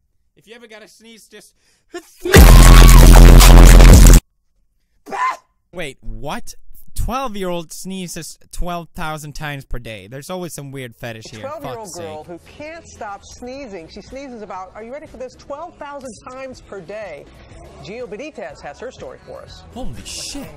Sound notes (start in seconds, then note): 2.3 cute fake sneezing